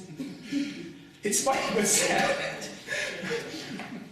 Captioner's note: laughs